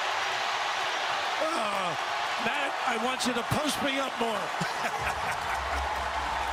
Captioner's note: laughter